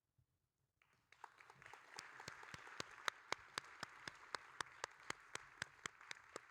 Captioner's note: audience and applauding